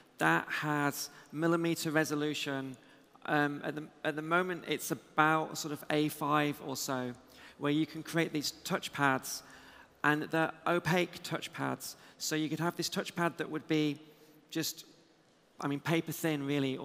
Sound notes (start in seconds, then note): none